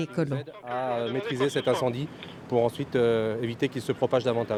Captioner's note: speaking French